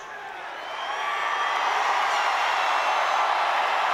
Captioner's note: audience cheers